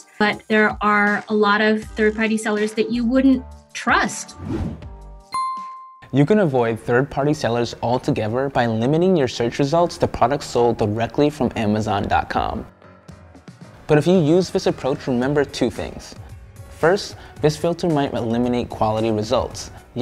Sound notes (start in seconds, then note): 5.4 beep; 13.2 upbeat music